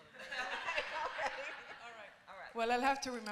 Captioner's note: laughter